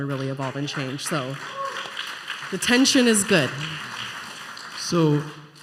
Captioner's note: applause